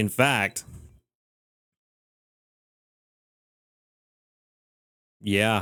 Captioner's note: beeping